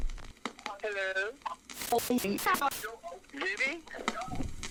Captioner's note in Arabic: صوت مشوه